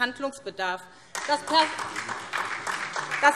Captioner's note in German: Beifall SPD